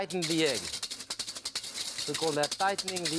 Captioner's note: whisk rattling